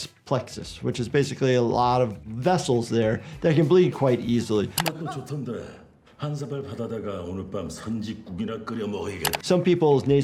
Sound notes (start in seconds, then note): 4.7 mouse clicks; 5.0 man speaking in foreign language; 9.2 mouse clicks